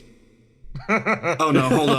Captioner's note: laugh